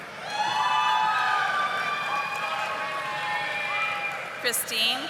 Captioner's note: audience applauding